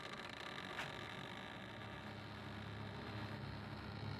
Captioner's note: door creaking; other worldly sounds